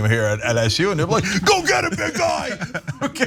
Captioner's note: laugh